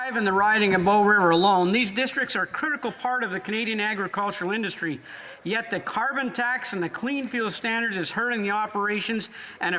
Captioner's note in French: voix de l'interprète